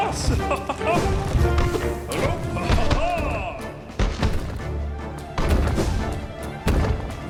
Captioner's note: dramatic music; chuckles; chuckling; balls bouncing